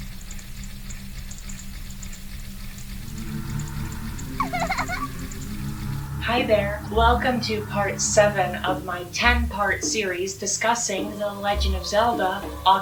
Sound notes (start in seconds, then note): 4.3 giggles